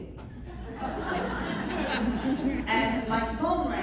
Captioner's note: laughter